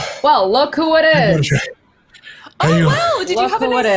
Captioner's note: mumbles